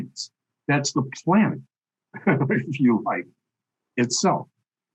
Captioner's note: chuckles